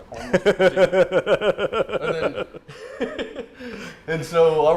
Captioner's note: laughter